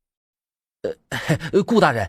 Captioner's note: chuckles